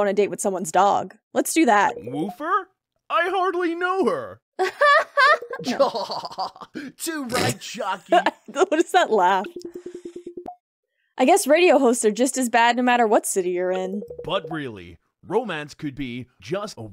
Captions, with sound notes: a date with someone's dog. Let's do that. [Loud, fake laughter] [Genuine Laughter] What was that laugh?